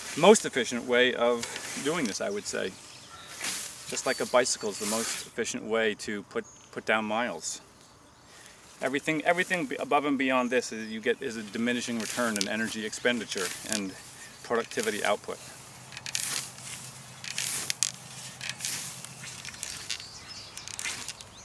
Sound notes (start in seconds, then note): 16.2 scraping